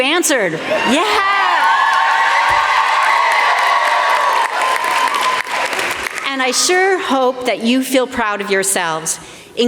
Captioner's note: applause